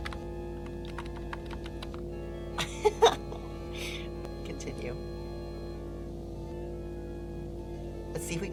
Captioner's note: laughs